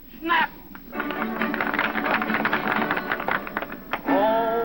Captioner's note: applause